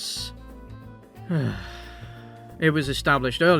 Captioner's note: sigh